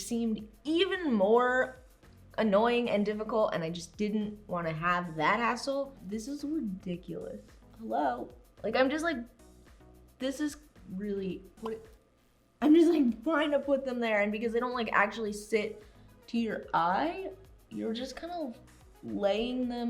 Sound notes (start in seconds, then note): 11.6 pop Sound